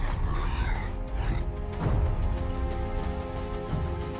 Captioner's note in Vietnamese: rên rỉ